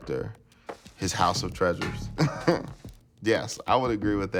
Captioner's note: laughter